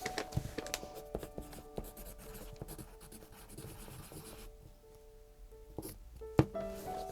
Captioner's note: pencil scratches